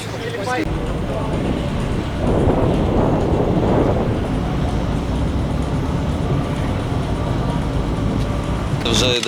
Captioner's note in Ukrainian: шум вітру